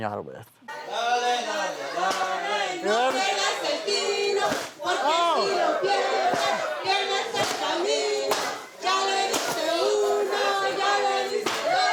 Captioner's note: chanting in non-english